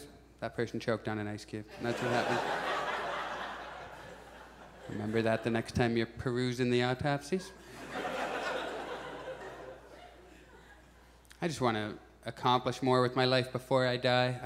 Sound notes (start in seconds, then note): 1.7 audience laughs; 7.6 audience laughs